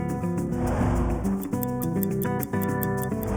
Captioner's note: timer ticking